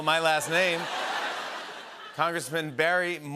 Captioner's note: laughter